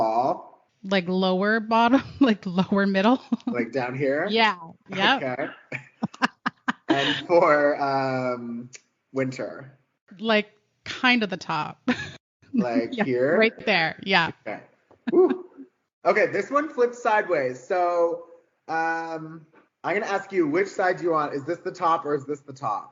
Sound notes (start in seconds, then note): 3.1 giggling; 4.9 laughing